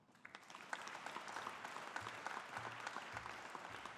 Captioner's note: audience applauding